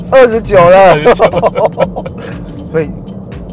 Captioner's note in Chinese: 哈哈哈